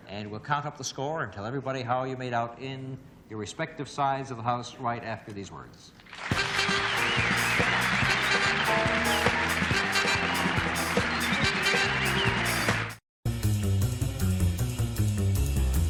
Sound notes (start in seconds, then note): 6.0 applause; 8.1 theme music